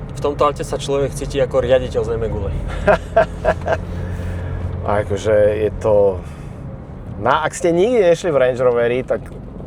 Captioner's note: laughter